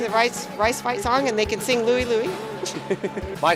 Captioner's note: laughing